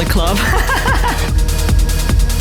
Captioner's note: laughing